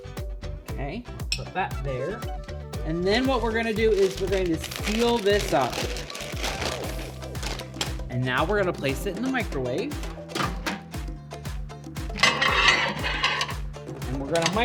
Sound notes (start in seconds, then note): 6.2 paper bag crumpling; 12.2 plate scraping